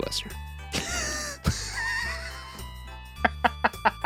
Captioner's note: laughing